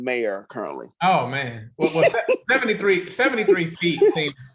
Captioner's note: chuckles